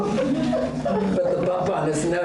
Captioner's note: audience laughter